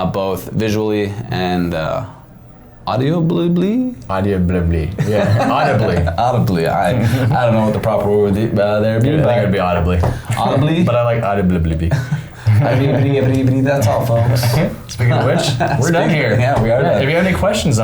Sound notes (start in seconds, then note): 4.9 laughing; 12.4 laughing